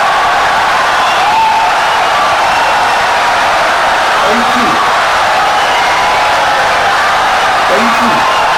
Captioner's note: audience cheering, applauding for 17 seconds